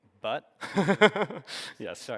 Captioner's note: laughing